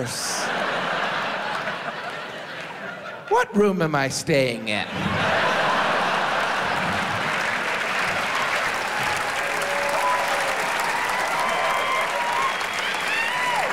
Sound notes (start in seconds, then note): 0.0 audience laughs; 7.6 audience applauds